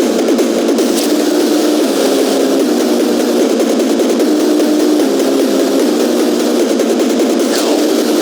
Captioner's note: shooting Orbs